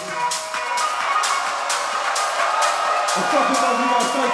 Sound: crowd cheers

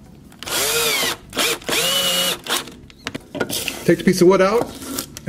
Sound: screwdriver whirring

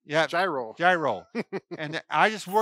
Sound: laughs

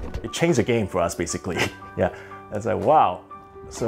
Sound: chuckles

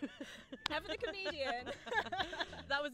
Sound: laugh

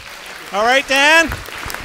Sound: audience applauding

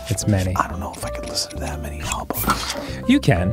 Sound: whispering

